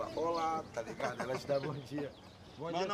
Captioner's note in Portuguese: risada